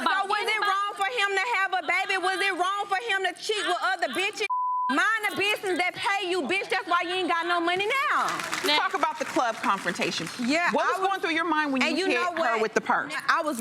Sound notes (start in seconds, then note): 4.5 beep